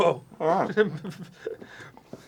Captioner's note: muffles something with bagel in his mouth again